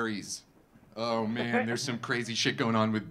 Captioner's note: audience laughing